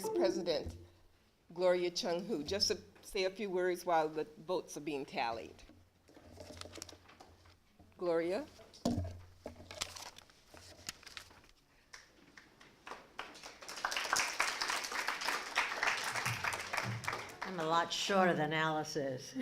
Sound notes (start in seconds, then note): 11.8 applause